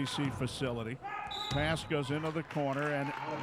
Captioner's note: referee whistling